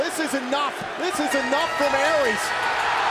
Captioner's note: crowd cheering